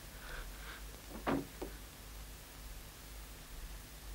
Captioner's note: door thuds